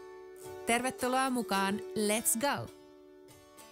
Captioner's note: speaking in Finnish